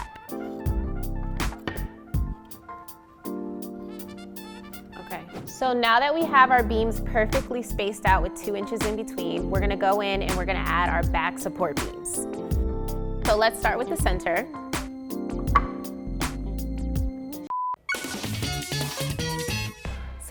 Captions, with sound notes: (soft upbeat music) Okay, so now that we have our beams perfectly spaced out with two inches in between, we're gonna go in and we're gonna add our back support beams. So let's start with the center. (beep) (upbeat music)